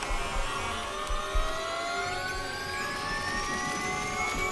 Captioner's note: steady tone accelerating